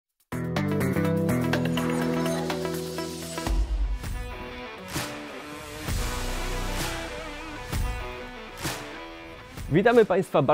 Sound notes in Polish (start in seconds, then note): 0.1 Aplauz